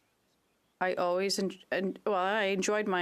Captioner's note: speaking French